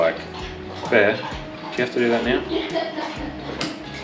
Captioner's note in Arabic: تضحك في الخلفية